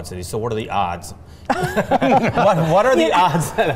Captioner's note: laughter